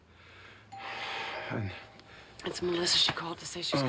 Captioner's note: doorbell chimes